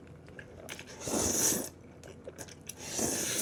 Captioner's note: slurps; another slurp